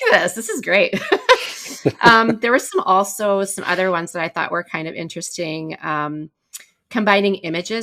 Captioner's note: laughter